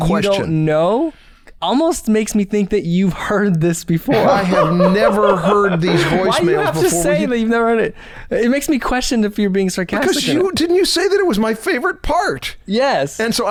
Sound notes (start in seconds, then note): 4.0 laughter